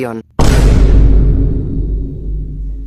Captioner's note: Vine Boom